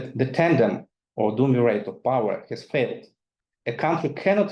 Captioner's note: speaking in foreign language